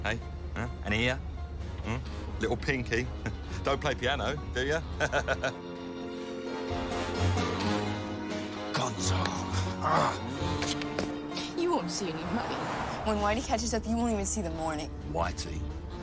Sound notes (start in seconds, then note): 4.9 laughs; 9.7 growls